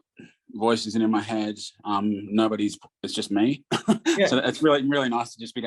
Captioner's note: laughs